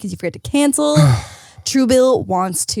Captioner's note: sighs